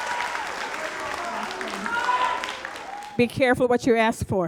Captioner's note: audience cheers continues